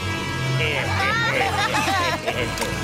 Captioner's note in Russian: Все смеются